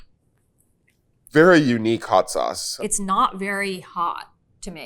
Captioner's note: none